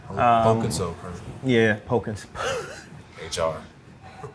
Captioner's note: laughs